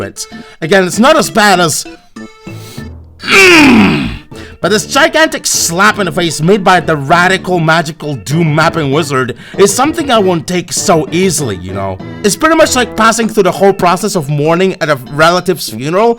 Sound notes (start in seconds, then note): 3.2 grunts painfully